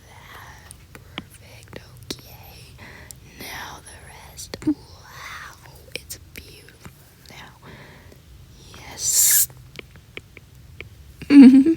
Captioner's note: maniacal laughter